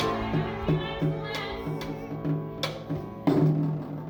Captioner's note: murmurs; drum rolls